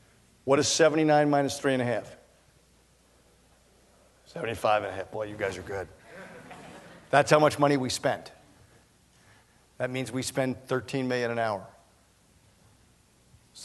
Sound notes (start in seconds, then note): 6.0 laughter